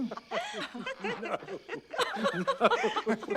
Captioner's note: laughter